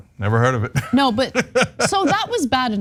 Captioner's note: laugh